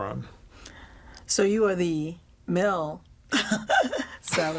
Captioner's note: laughs